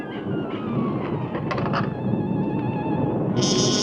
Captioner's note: mysterious music; door creaks; ominous music